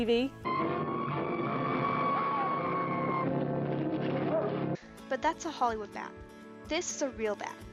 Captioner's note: fake bat screeching